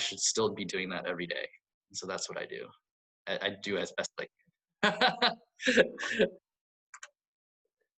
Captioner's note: laughs